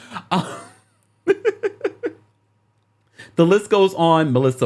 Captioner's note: laughs